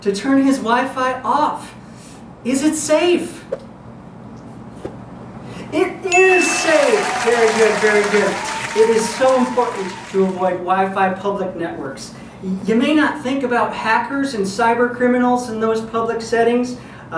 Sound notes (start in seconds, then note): 6.2 audience applause